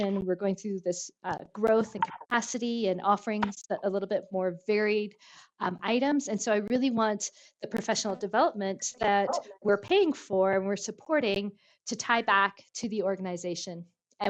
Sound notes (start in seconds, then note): none